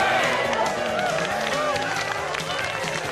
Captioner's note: laughing & applause